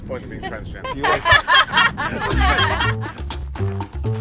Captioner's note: laughs